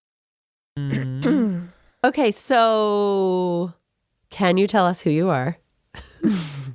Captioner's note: laughs